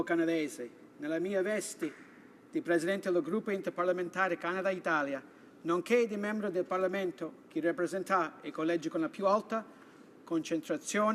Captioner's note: speaking Italian